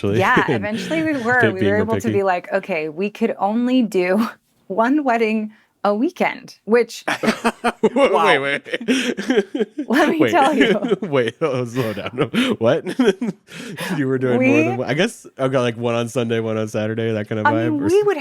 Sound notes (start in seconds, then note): 7.6 group laughing